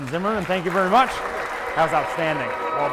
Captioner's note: audience applaud